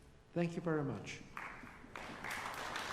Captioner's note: applause